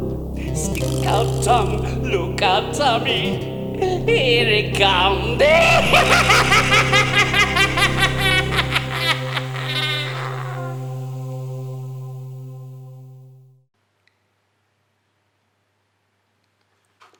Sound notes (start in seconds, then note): 5.4 laughing manically